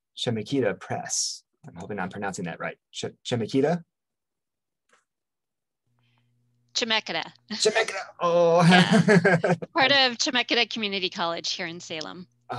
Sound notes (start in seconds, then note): 8.4 laughs; 8.5 chuckles